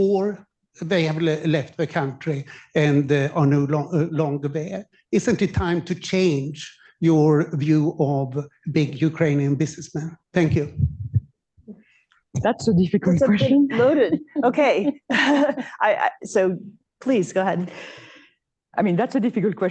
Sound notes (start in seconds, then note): 13.3 laughs